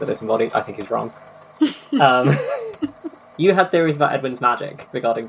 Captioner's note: laughing; laughs